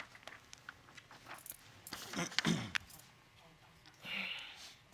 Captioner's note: clears throat